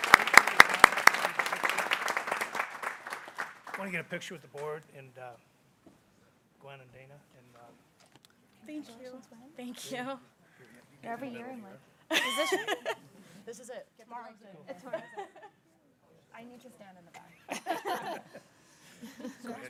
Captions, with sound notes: Wanna get a picture with the board and Gwen and Dana. - Thank you. - Thank you. (people chattering) - I need to stand in the back, guys.